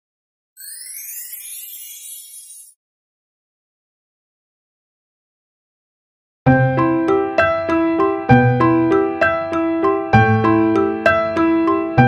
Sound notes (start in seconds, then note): 0.6 tinkling; 6.4 soft piano music